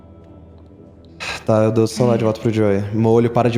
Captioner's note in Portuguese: Suspiro